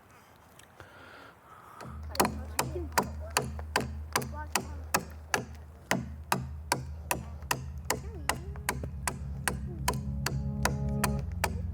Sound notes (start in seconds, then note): 2.0 tool banging; 7.3 pensive ethereal music